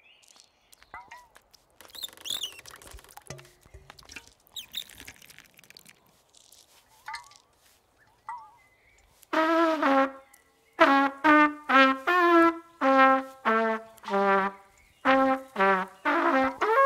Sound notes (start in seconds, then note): 1.7 branch creaking; 4.9 water trickling; 10.8 trumpet music